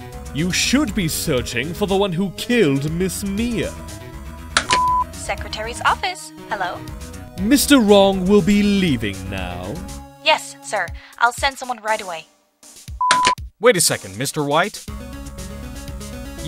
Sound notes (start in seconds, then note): 4.6 CLICK, intercom beeps; 13.0 intercom beeps, CLICK